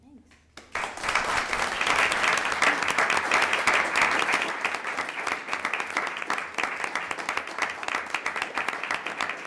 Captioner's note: applause